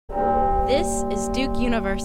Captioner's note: tower Bell Chimes